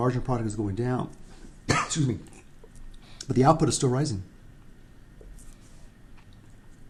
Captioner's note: cough, excuse me